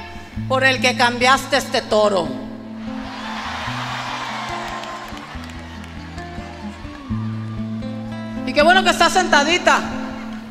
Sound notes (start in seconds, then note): 2.8 gritos del público